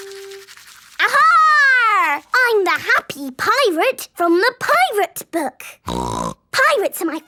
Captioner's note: snorting